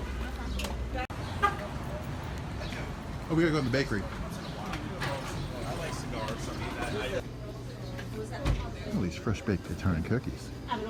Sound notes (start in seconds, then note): 1.2 horn honks; 10.7 customers speak in a foreign language